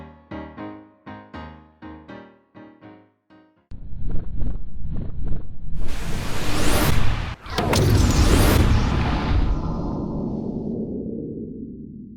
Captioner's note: whooshing sound effect